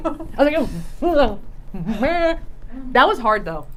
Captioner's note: vocal grunts